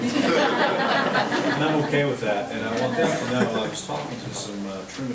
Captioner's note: board members laughing